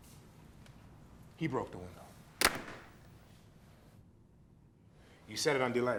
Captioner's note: door clatters shut